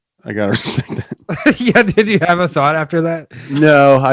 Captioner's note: laughs